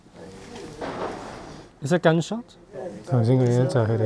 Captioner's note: bang